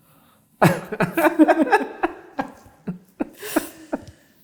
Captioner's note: both laughing